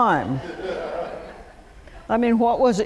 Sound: laughter

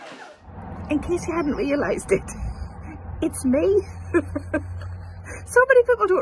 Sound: crowd laugh; laughs

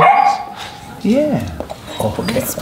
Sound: dog baring

